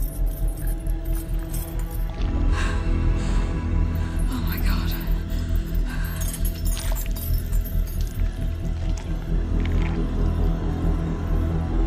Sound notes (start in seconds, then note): 1.1 flesh squelching; 6.6 tense music continues; 8.0 ooze squelching